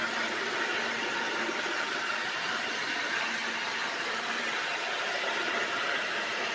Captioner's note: blender whirring continues